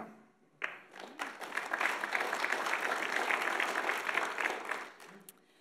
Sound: audience applauds

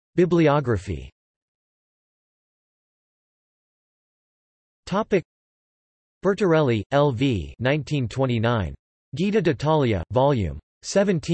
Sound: in Italian

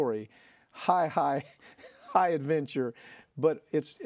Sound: laughs

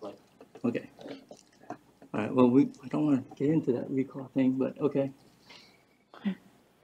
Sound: laughs

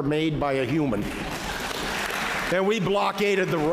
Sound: applause

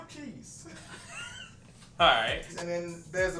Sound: laughing

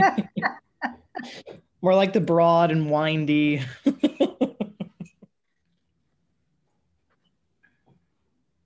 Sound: laughing

